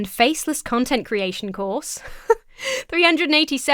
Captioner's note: laughs incredulously